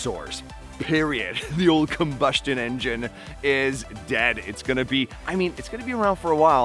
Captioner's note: laughing